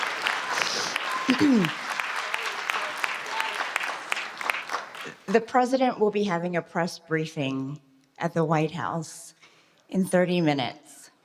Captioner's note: applause